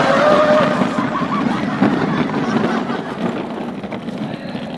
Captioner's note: laughing